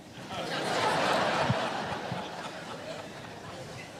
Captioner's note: audience laughs